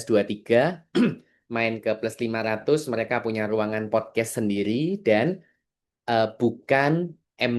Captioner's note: berdehem